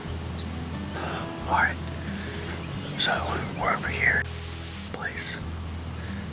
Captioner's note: static